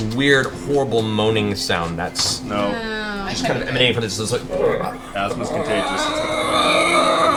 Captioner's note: screeches